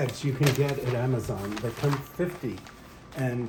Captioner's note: paper rustling